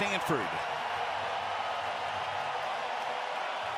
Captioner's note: crowd cheering